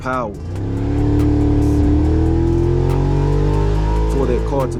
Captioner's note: engine revving